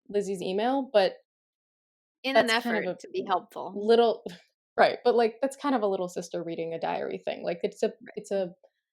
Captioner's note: laughs